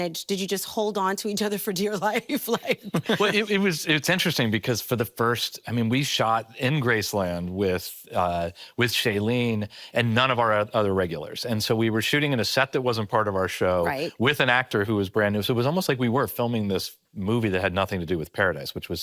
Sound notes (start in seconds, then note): 2.6 laughing